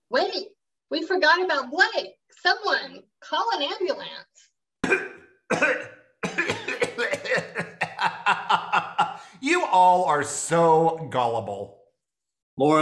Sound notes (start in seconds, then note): 4.8 coughing; 6.4 laughing